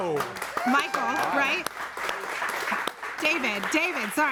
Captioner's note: audience applauds